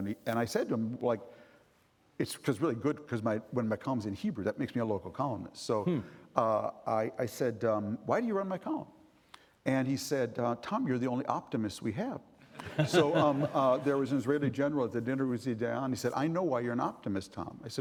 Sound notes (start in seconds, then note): 12.6 chuckling